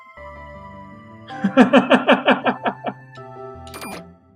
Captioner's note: laughs